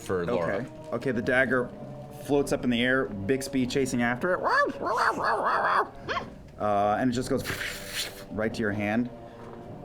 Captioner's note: barks